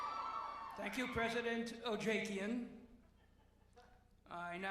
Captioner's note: cheers and applause